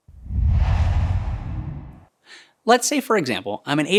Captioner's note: logo swooshes